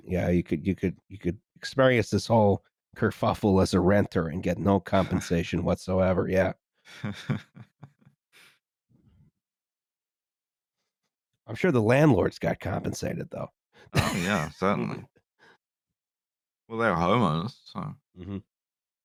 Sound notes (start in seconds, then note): 7.0 chuckles softly